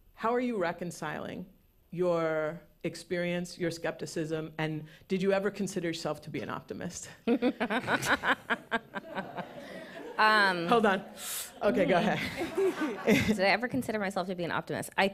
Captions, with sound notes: how are you reconciling your experience, your skepticism, and did you ever consider yourself to be an optimist? [laughs] Um-- Hold on. [puffs] Okay, go ahead. Did I ever consider myself to be an optimist?